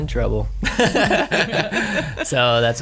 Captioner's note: laughing